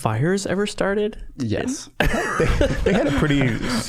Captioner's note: all laughing